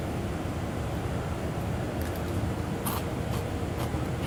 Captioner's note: crunching